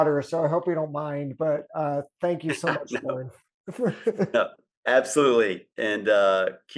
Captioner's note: laughs